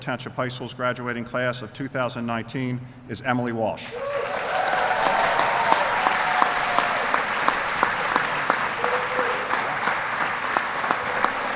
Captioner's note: applause